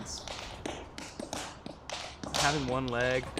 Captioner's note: tapping